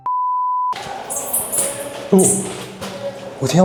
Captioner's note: sound of bats